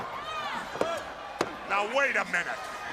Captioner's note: crowd chatter